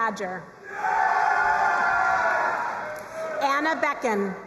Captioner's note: crowd cheering and applauding